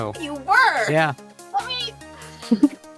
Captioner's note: LEA laughs